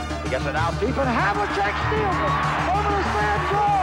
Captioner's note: crowd cheering